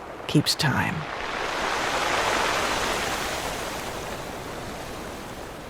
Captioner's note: waves crashing and whooshing